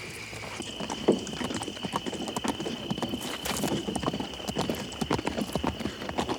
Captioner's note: crickets chirp; hooves clop